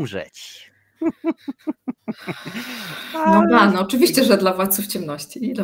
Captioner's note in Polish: śmiech